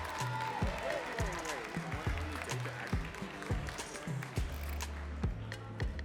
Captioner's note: audience cheering and clapping